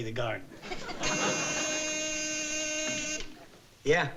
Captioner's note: phone buzzing